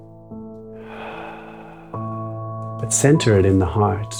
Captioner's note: exhales